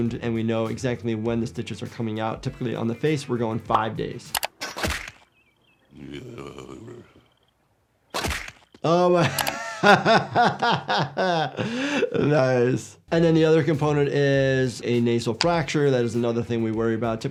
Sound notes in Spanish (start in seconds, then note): 5.9 Bob Patiño gime; 9.2 risas